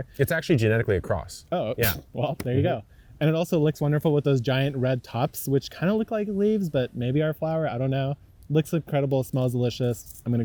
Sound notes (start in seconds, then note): 2.8 table thumping